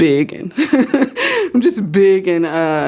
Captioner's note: laughs